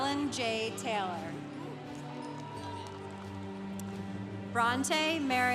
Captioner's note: congregation applauding